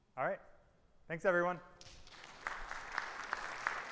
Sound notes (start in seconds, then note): 1.8 audience applauding